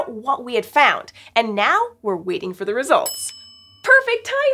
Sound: ding!

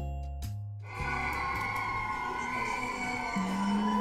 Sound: screams♥

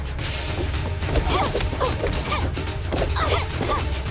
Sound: both grunting; continuing grunting

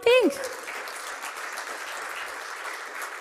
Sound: applause

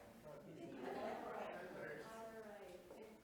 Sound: board members chattering softly

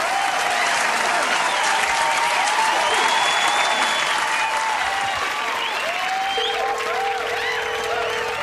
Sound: audience cheers

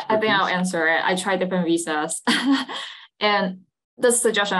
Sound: laughs

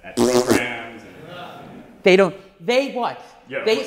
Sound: blows raspberry

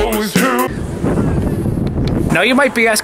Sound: wind howling

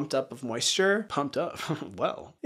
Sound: chuckles

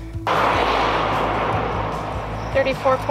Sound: sound of car passing

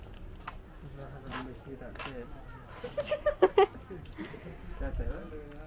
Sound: laughs

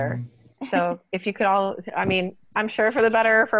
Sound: laughter

